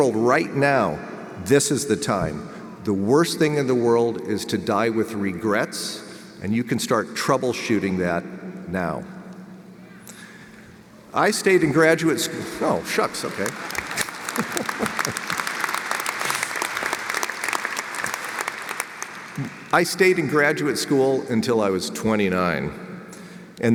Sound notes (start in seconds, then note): 12.3 laughs; 15.7 audience applauds